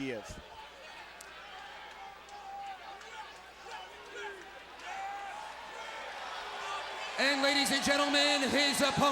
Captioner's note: crowd cheering